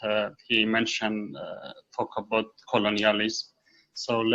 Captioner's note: none